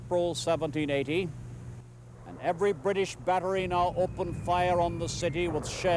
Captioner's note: mortar fire whistling, booming